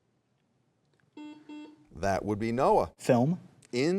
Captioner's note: buzzer beeps